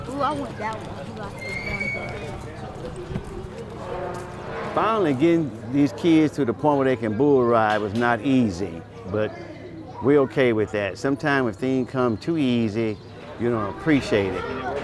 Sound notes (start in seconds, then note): 3.1 metal squealing; 3.1 people talking